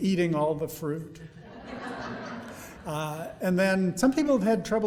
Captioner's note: audience laughing